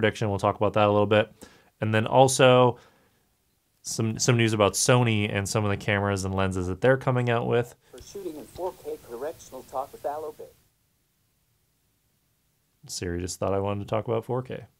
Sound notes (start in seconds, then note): 8.3 computer voice